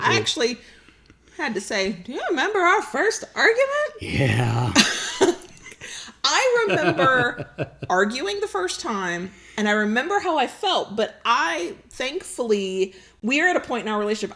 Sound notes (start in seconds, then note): 6.7 laughs